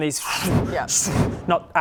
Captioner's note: swoosh